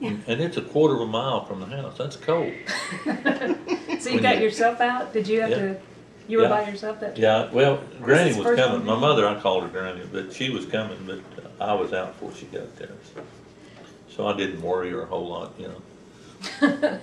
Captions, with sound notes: and it’s a quarter of a mile from the house. That’s cold. (Laughter) So you got yourself out? You were by yourself that trip? Yes. Well, Granny was coming—my mother, I called her Granny—she was coming but I was out before she got there so I didn’t worry her a whole lot. (Laughter)